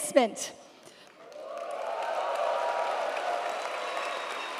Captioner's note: crowd cheering